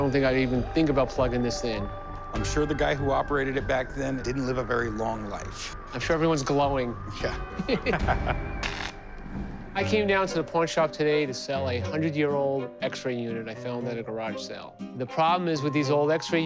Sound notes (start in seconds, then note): 7.4 both chuckle